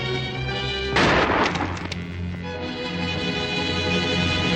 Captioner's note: gun bangs